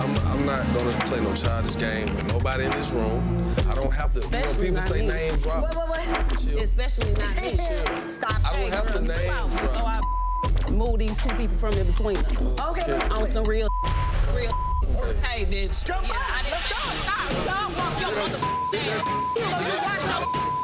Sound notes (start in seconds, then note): 9.4 beep; 13.4 beep; 18.3 beep; 19.9 dramatic music